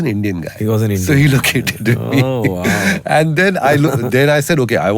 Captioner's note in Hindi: गला साफ़ करने की आवाज़